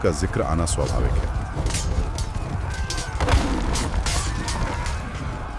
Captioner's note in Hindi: चीखने की आवाज़